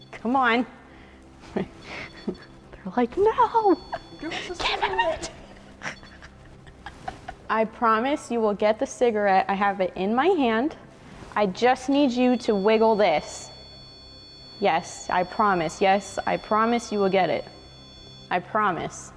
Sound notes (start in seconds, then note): 5.4 REM pod beeps; 5.4 laughing; 13.3 REM pod beeping